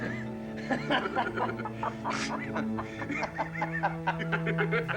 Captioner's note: chuckling